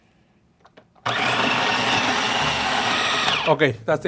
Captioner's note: food processor whines